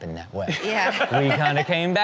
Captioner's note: everyone laughs